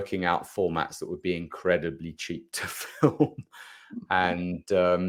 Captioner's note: chuckles